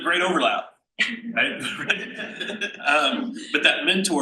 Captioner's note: panel laughs